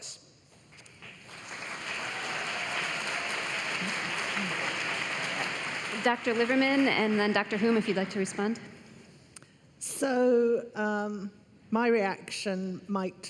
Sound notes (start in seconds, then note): 2.9 applause; 7.0 cheering